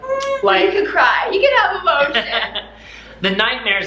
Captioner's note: laughs